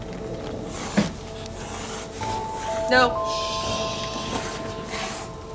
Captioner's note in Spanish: Siseos